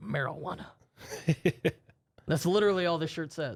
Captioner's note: softly chuckles